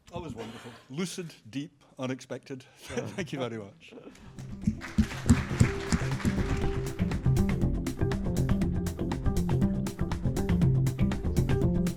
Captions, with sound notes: - That was wonderful. Lucid, deep, unexpected, thank you very much. (audience applauding) (gentle electronic music)